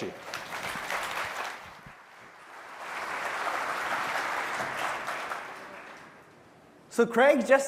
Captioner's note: applause